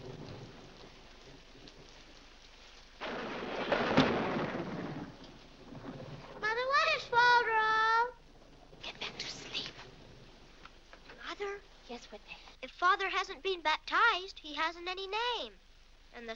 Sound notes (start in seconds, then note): 3.0 loud thunder